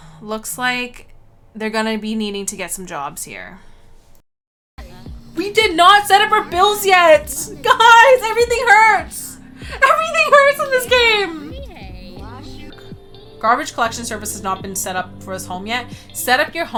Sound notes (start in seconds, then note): 5.4 audio from livestream